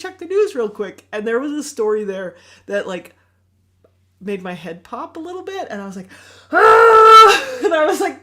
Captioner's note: yells